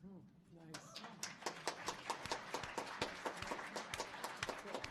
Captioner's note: audience applauding